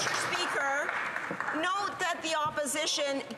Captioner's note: some Applause